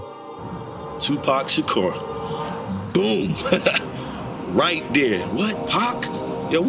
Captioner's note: laughing